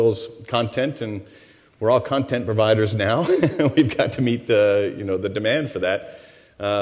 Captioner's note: laughs